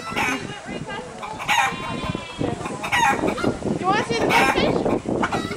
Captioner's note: lots of baaa-ing and cluck-cluck clucking